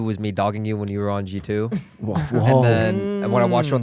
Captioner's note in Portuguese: risos